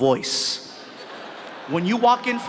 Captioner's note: audience laughs